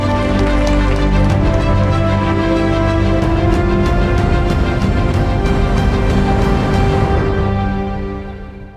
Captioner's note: audience applauding